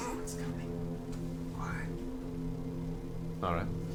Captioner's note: whispers